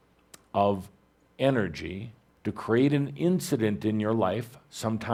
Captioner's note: none